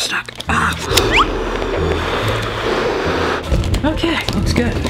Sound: blowing sound

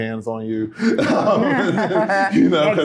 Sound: laughter

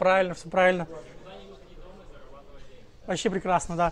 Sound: crowd

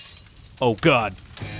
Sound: glass shattering; fire blazing

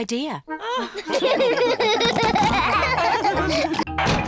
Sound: all laugh

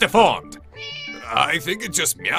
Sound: meow

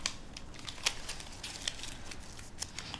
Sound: paper rustles

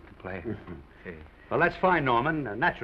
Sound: Oliver chuckles

